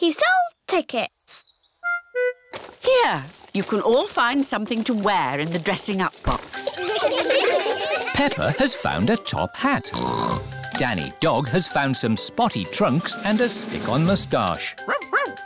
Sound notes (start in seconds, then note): 6.6 all giggle; 9.9 snorts